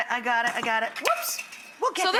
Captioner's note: whisk clattering